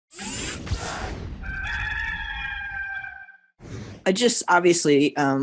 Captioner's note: rooster crowing